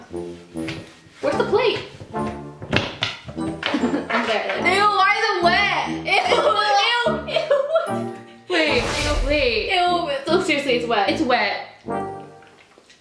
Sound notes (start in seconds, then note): 8.6 whooshing